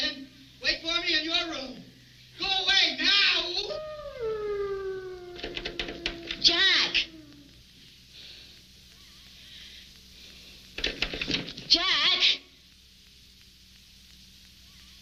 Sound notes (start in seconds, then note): 1.4 wolf howling; 7.7 door handle rattling